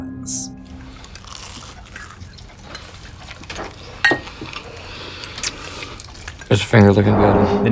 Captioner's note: quietly and Awkardly Eating